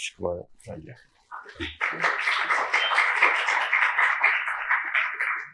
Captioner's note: applause